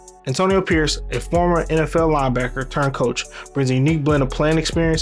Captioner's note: voiceover